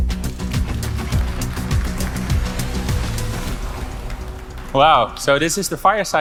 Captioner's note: audience applauding